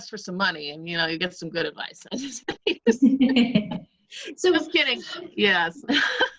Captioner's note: both laugh; both laugh